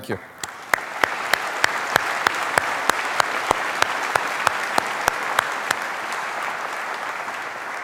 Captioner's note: applause